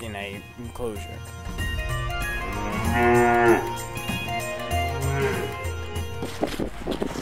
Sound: cow mooing

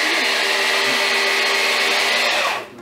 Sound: machine Sound

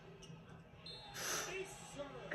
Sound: breathes in heavily

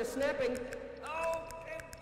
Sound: snapping

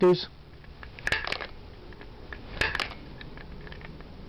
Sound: clicks

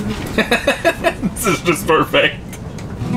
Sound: laughs

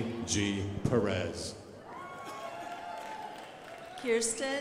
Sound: crowd applauding

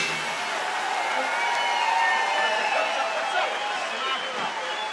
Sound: audience applauds

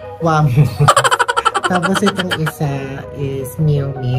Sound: laughing SFX

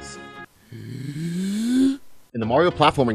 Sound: deep breath

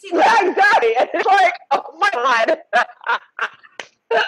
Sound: all laughing

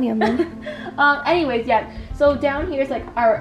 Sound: giggles

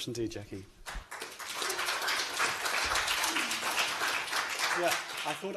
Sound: applause

